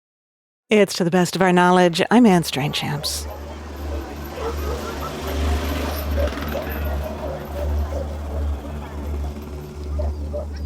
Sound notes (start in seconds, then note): 2.6 dog barking in distance